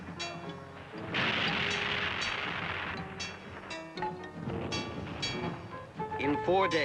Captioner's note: explosion